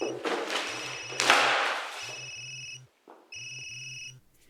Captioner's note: phone ringing